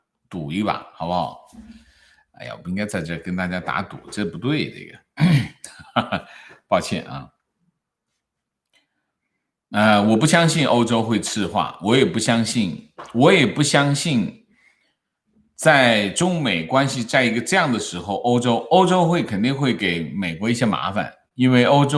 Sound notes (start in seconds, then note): 5.3 哈哈